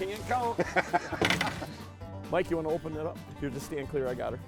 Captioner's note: laughing